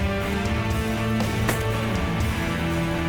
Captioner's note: gun shot